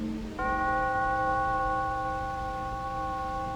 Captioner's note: bell tolling